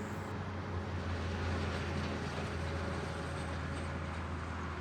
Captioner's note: humming traffic